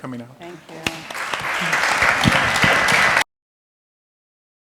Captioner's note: applause